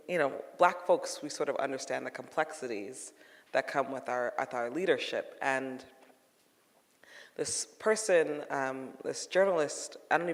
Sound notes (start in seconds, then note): none